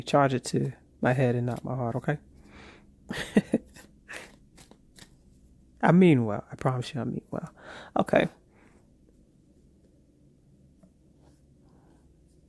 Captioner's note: chuckles